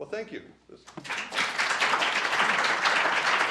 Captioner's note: applause